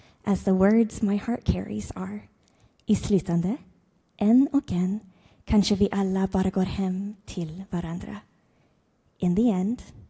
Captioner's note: speaks foreign language